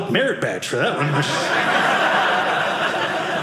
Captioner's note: audience laughing